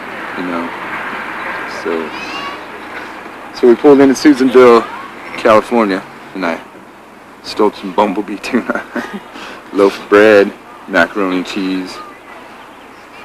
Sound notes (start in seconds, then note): 8.5 laughter